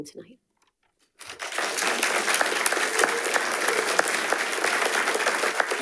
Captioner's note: attendees applauding